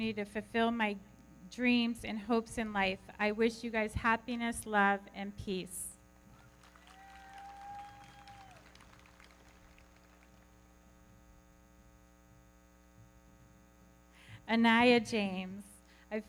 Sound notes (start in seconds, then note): 6.3 everybody clapping; 6.3 audience cheering